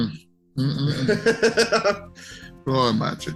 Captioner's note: laughs